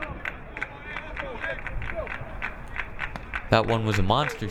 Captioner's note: crowd clapping